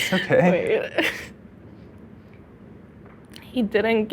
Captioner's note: stammers